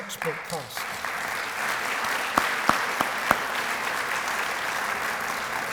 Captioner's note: applause